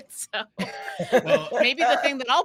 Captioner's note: giggles